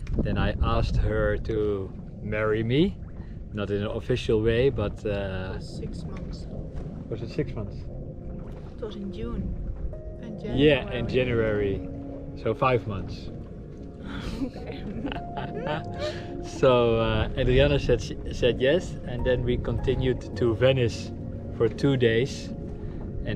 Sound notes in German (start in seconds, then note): 14.1 lacht